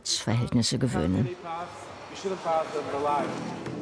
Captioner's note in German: Leise Gesprächsfetzen